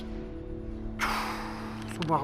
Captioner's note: exhales; speaking Quechua